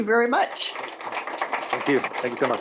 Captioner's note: applause